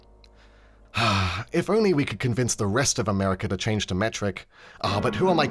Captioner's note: sigh